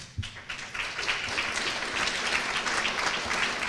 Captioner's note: applause